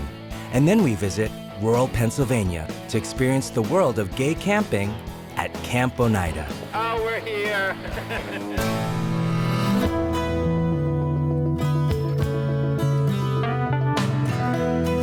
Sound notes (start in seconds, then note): 6.7 laughs; 8.5 theme music